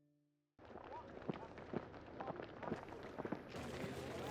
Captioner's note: footsteps in rhythm